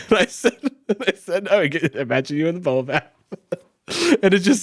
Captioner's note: chuckles